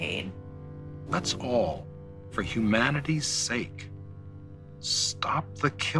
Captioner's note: soundbite of documentary, "the silent scream"